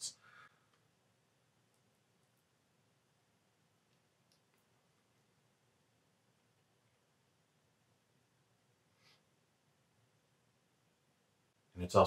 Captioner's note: uncomfortably long silence I missed in the edit